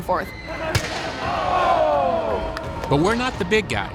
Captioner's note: crowd exclaims; thuds